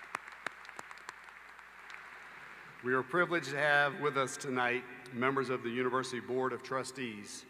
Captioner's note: applause